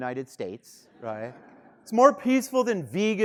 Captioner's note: students laughing